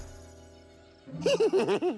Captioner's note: laughs